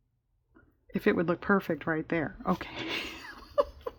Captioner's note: laughs